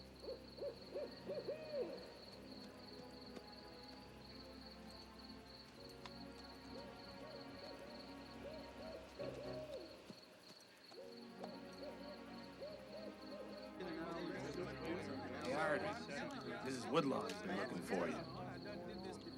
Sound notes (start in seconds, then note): 0.1 owl hooting; 13.1 men chattering; 19.1 ominous music